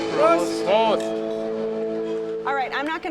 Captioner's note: jazz music; speaking in foreign language